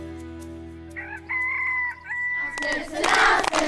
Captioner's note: rooster crowing